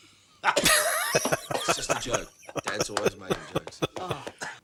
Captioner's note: laughing